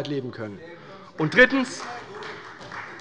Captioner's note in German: Beifall bei Abgeordneten der CDU